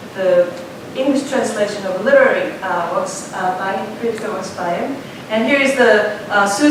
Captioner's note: korean